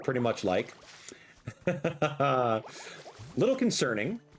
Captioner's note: laughs